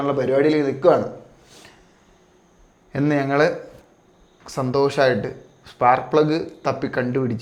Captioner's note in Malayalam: ചീറ്റുന്നു